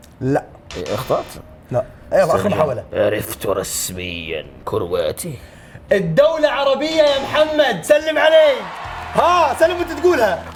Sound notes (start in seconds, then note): 3.7 speaking in a deep voice